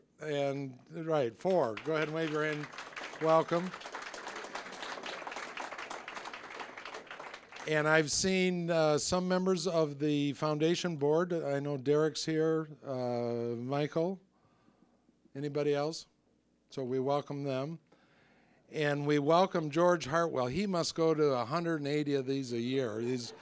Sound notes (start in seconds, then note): 4.0 applause; 22.9 audience laughing